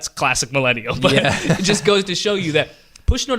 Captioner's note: laughter